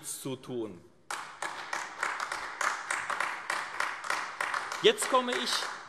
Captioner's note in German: Beifall AfD